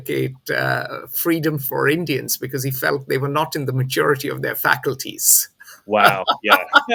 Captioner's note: laughs